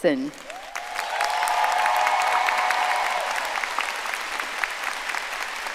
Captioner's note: audience applauding and cheering